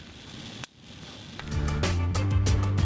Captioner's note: fire blazing